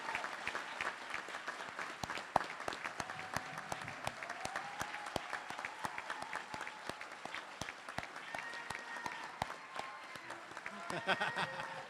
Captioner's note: applause